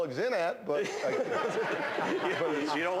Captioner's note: laughter